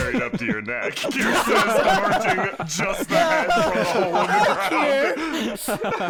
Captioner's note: laughter